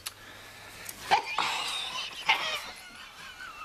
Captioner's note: laughing